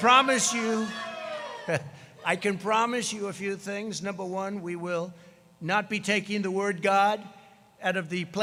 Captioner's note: applause